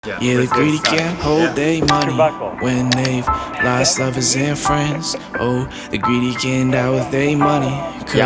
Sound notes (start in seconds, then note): 0.8 click; 2.9 click